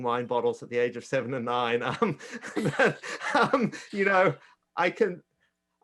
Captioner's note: chuckles